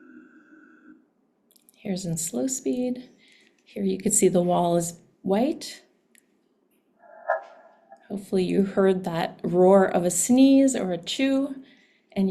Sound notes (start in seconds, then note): 7.2 sneeze whooshes